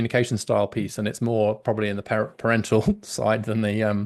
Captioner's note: laughs